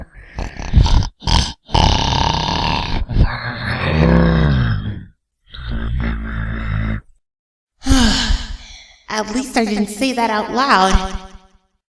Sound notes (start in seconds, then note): 0.0 snoring; 3.3 groaning; 7.8 sigh